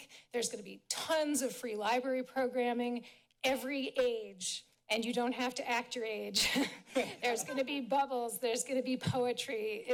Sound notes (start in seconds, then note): 6.5 laughs